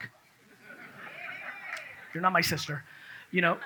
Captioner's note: audience laughs